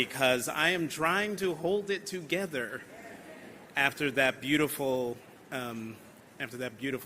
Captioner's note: laughter